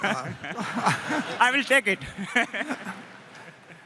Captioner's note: laughter